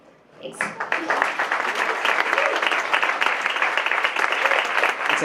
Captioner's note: applause